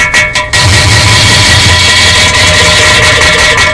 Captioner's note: really heave poop noises